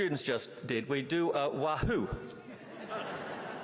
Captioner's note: laughter